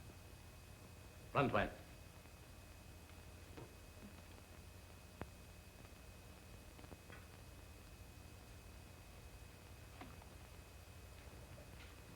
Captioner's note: non-english speech